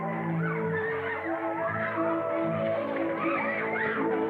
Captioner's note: agitated chatter